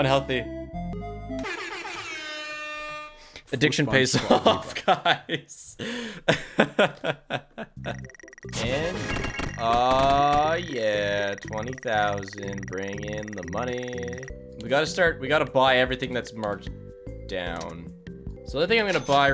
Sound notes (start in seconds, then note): 7.6 laughs